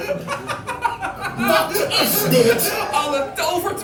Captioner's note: laughter